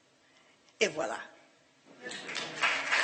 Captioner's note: applause